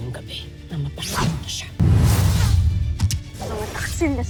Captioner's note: arrow swooshes